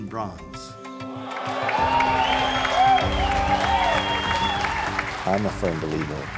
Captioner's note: cheers and applause